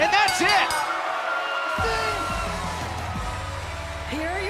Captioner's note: bell